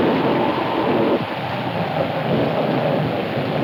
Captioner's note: wind howling